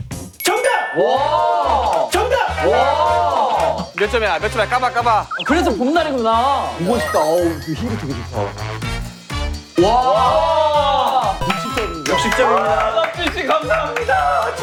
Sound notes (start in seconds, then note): 2.6 Hứ